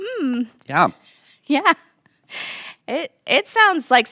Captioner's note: laughing